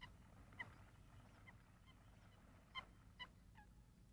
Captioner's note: bird squawking softly